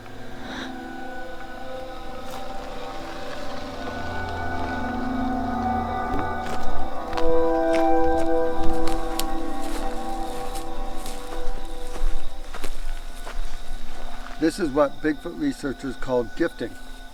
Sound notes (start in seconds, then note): 0.0 dramatic music; 0.3 ominous music; 6.1 footsteps tapping; 6.7 ominous music